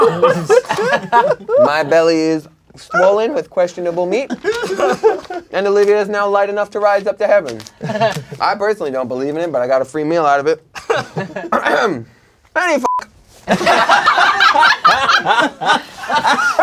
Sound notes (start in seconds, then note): 11.0 crowd laughing